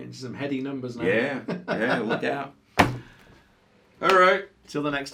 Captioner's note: laughing